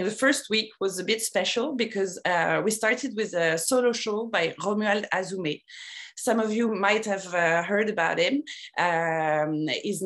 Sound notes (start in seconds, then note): 4.0 non-english speech